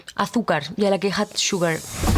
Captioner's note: speaking spanish; speaking english